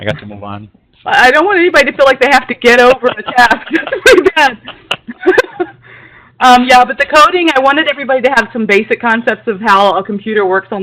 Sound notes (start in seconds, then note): 2.8 laughter